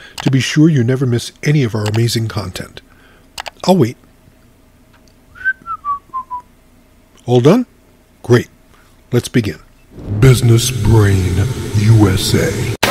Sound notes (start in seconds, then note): 5.3 narrator whistling